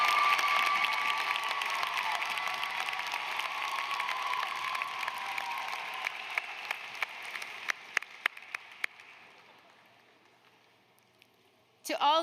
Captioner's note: applause